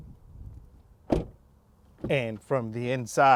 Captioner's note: car door thuds